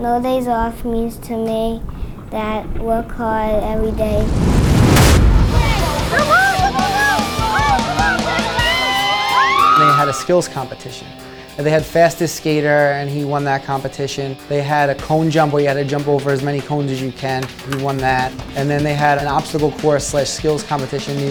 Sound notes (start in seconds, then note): 5.2 upbeat music; 7.5 players shout